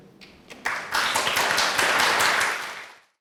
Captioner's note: applause